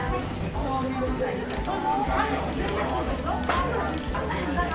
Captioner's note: laughs